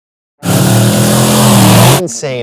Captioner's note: engine revving